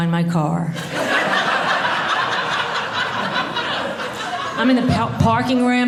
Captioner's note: audience laughing